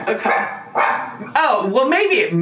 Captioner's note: dog barking